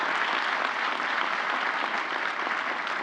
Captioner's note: applause